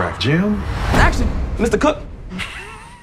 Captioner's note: electronic whooshing; chuckling